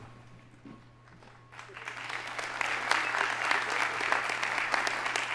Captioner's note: audience applauding